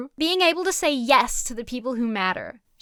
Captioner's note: none